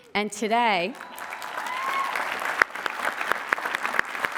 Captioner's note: applause